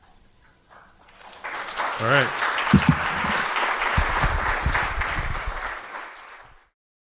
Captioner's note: audience applause